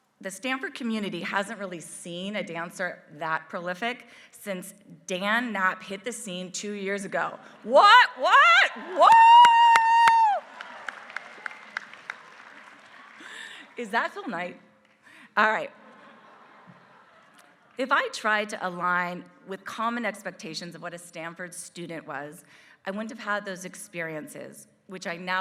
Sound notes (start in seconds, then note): 8.8 applause; 12.0 laugh